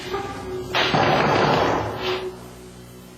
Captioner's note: knocking